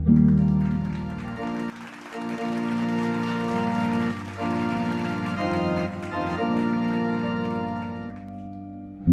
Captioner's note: clapping